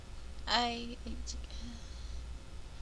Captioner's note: sigh